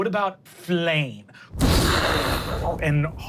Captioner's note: imitates fire whooshing